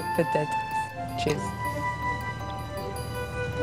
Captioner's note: in English